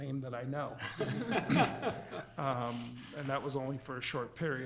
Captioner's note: board members chuckling